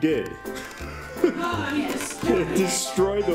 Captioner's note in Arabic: يضحك